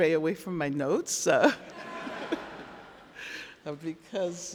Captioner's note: crowd laughing